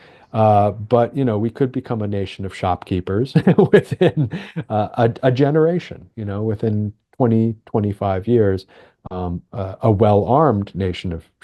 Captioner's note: laughs